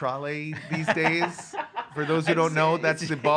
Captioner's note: laughs